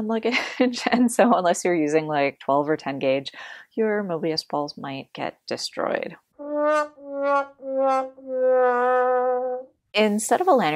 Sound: sad trombone sound

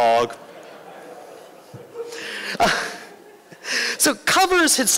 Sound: laughter

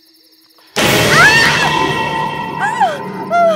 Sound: screaming

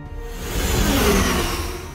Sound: blizzard accelerates

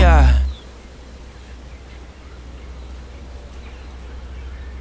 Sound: birds chirping

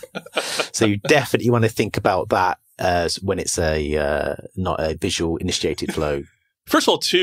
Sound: laughing

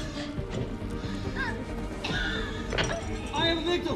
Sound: coughing

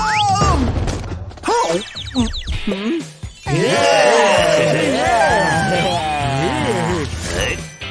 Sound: making happy sounds; moaning

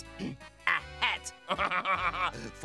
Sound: chuckles

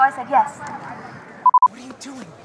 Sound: beeping

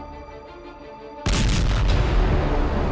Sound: le boom

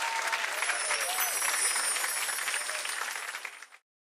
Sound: bells chiming

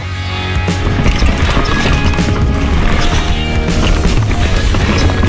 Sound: bike rolling

